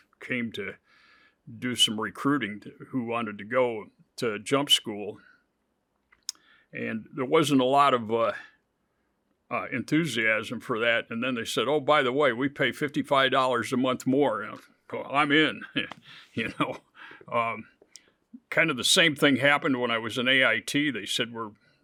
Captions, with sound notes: came to do some recruiting who wanted to go to Jump school. And there wasn't a lot of enthusiasm for that. And then they said, "Oh, by the way, we pay $55 a month more. You know, well, I'm in, (chuckles) you know? Kind of the same thing happened when I was in AIT they said,